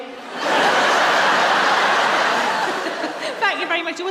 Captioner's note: laughter